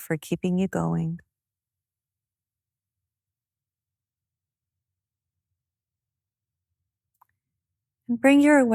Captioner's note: silence